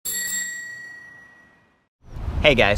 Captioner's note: bell ringing